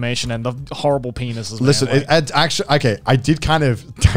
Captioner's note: murmurs